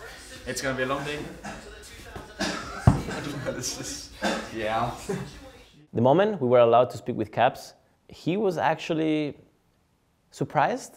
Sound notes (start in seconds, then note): 2.0 pillow hitting noise; 2.2 laugh